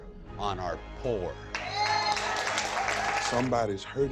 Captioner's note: cheering